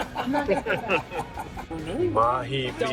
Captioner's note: all laughing